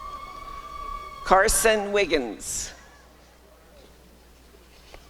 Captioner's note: applause and cheering